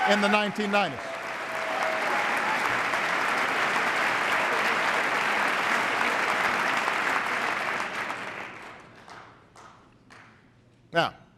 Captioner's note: applause